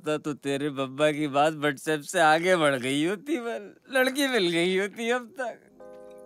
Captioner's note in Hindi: none